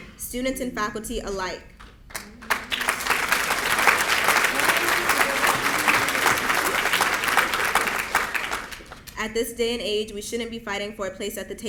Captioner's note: applause